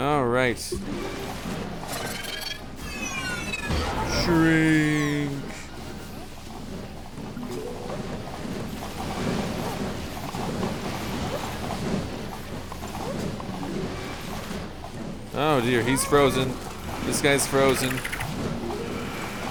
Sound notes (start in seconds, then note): 0.7 chill music; 6.6 rushing sounds